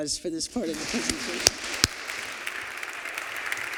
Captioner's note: applause